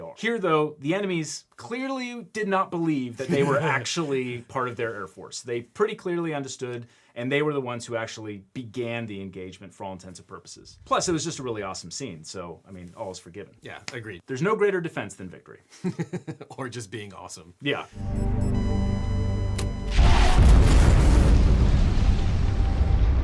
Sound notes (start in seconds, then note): 15.7 chuckling; 17.9 device beeping; 19.8 aircraft exploding